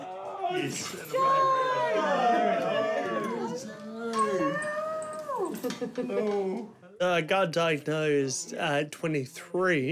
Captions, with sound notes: - Joe! (ALL EXCLAIM) - What's up? - Hello! (CHUCKLES) - Hello. - I got diagnosed at 23,